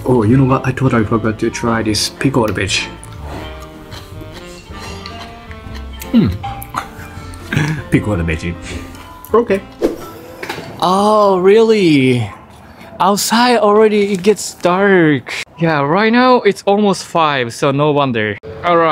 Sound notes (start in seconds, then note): 4.2 crunching